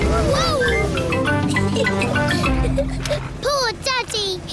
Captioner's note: giggles